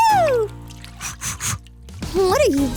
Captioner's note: snorts